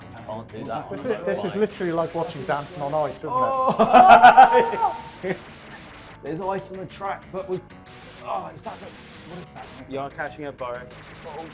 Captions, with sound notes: - This is literally like watching Dancing on Ice, isn't it? (laughter) - The lights on the track, - You are catching up, Boris.